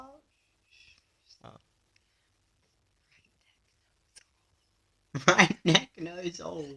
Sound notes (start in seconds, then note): 1.7 whispering; 5.1 laughing